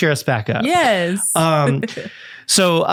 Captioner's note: giggles